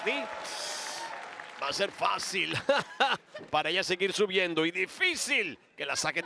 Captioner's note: laugh